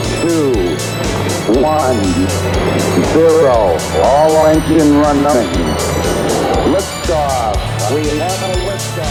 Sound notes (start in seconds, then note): 0.0 rocket countdown